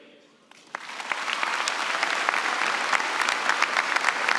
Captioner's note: applause